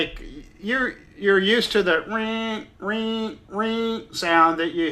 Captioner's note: grinding